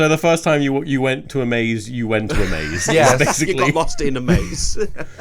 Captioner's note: laughs